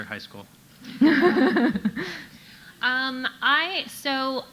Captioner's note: audience laughing